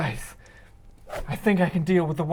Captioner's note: whoosh